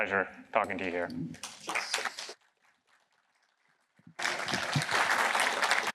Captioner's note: applause